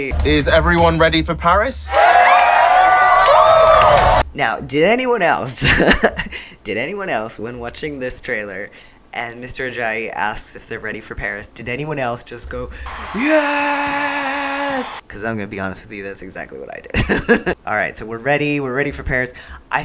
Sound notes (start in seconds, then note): 1.8 cheering; 5.6 laughter